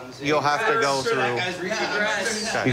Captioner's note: arguing